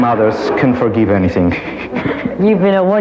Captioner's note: audience laughs; laughs